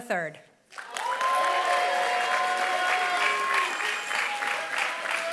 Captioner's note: applause